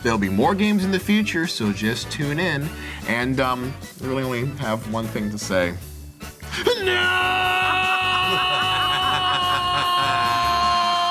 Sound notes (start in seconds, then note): 6.6 laughing